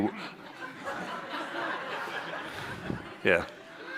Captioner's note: chuckles